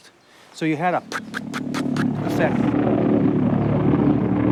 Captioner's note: air whooshing